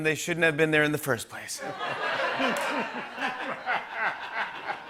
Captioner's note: laughter